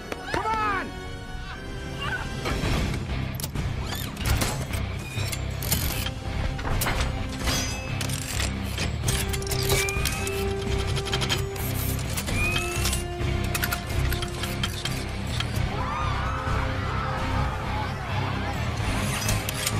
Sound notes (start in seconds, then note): 2.3 adventurous music; 5.4 suit beeping and whistling; 9.6 suit clanging and squealing; 15.6 crowd screaming